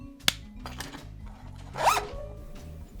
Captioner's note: zipper zips gayly